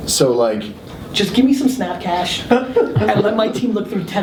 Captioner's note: laughs